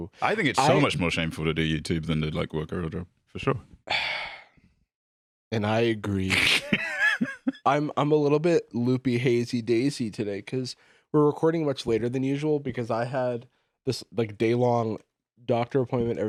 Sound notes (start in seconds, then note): 3.9 sighs; 6.3 laughs